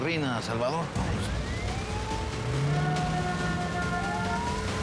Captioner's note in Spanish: ruido de sirenas